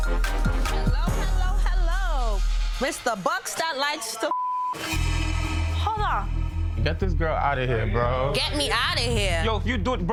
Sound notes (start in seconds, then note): 4.3 beep